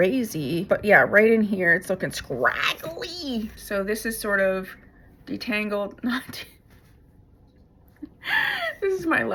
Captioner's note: laughter and gasps